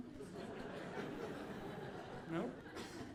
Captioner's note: audience laughing